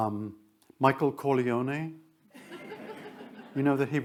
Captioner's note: attendees laugh